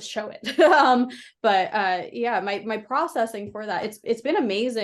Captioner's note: laughs